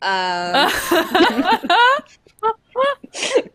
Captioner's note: laughing